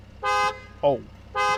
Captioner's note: car engine purring; car horn beeps